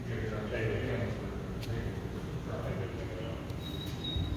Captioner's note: indistinct conversation